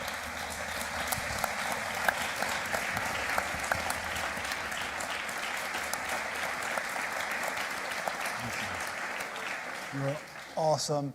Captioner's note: applause